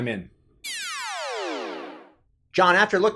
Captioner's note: electronic whooshing